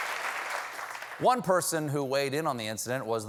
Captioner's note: applause